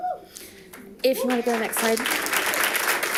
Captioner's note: audience applauding